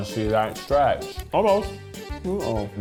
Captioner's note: humming